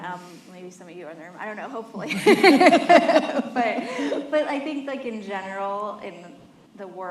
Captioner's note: laughter